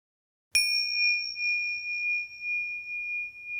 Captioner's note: bell ringing